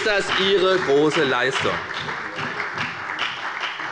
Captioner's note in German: Beifall bei der FDP und der SPD